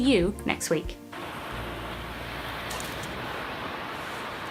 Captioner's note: waves rushing